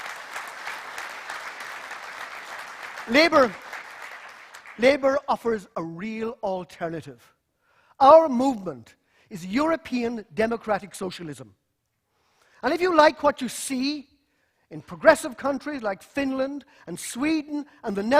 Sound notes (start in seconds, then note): 6.2 applause